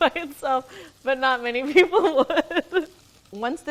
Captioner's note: laughs